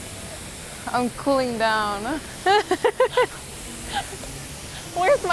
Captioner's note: laughing